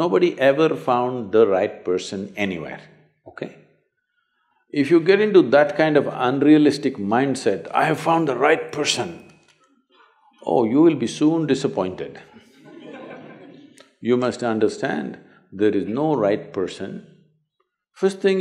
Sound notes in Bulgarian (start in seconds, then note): 12.2 смях